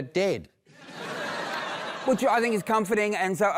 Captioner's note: laughter